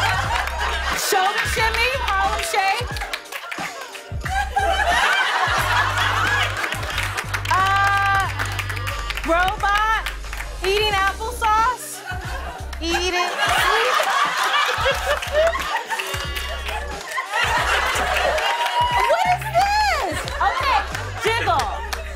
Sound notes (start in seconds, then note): 3.8 laughter and applause; 14.4 laughter